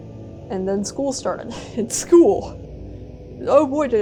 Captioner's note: laugh